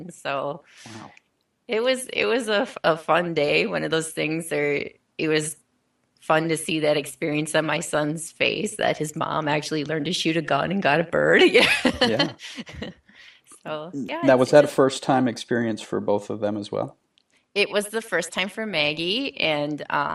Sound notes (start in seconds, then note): 11.4 laughing